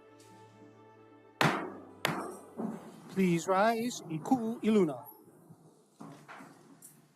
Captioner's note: gavel bangs twice